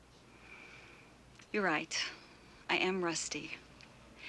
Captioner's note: inhales deeply